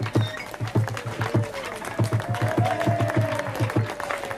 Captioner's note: cheering